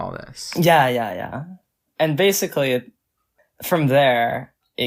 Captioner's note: none